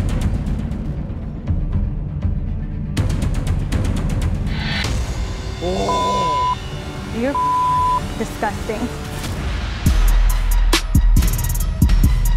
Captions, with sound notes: (soft dramatic music) (groaning) (beeping) - You're disgusting.